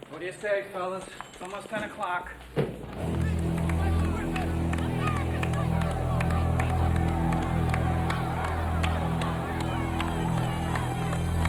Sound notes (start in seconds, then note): 2.9 dramatic music; 3.0 crowd clamoring